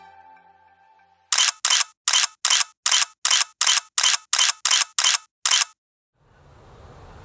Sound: camera shutter

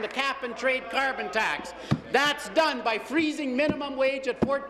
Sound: applause

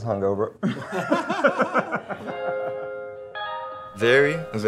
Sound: everyone laughing

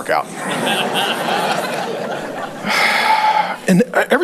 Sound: congregation laughing

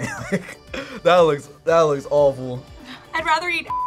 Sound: laughs

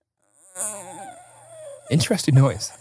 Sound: makes a thinking noise

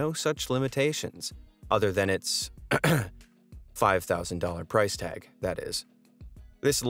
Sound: coughs

